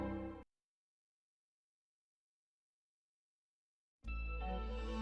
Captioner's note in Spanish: silencio